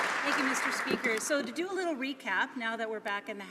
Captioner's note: some Applause